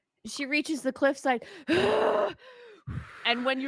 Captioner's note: breathing heavily